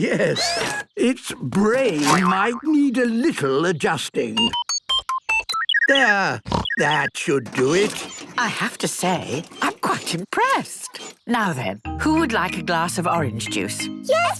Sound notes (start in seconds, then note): 6.4 snorting; 6.4 beeping